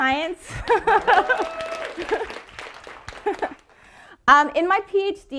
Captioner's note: audience applauding